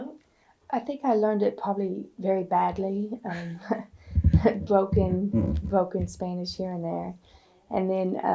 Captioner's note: laughs